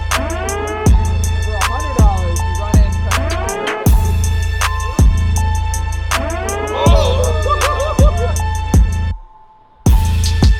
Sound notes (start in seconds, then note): 0.1 hip hop music; 6.6 laughs; 9.0 hip hop music